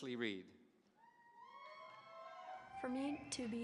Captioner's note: audience cheering